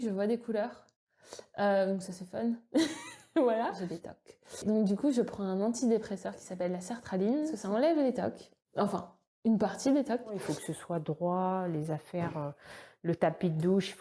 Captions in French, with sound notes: je vois des couleurs euh donc ca c’est fun *rire* Voilà, j’ai des tocs Donc du coup, je prends un antidépresseur qui s'appelle la sertraline. parceque ça enlève les TOC. Enfin, une partie des TOC Il faut que ce soit droit, les affaires, le tapis de douche.